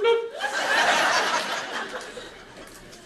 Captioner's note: laughter